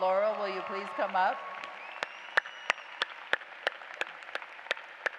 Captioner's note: applause